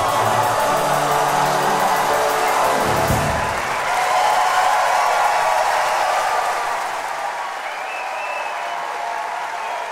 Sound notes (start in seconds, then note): 0.0 audience applauding; 0.0 audience cheering